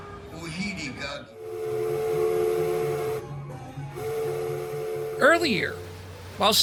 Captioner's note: whistle blowing